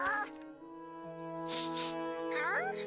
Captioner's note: sniffs; speaking Poobian